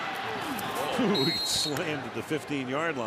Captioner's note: whistle